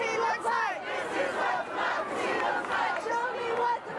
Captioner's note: unison chant